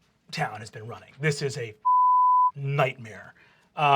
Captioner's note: beep